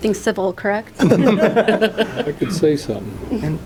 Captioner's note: laughter